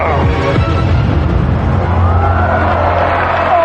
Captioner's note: audience gasps